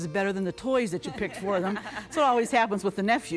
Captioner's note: laughter